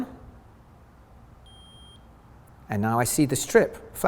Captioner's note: beep